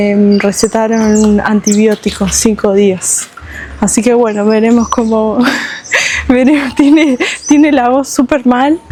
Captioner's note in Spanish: risas